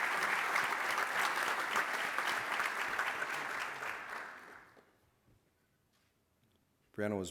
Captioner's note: applause